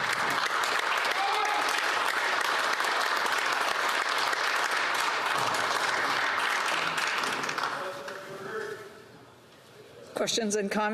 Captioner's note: applause